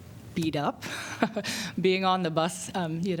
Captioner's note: laughter